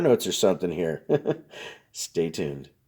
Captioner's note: laughs